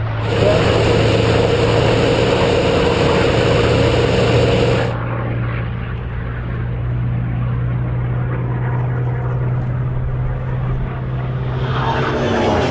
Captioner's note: engine roaring